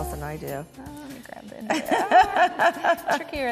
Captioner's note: laughs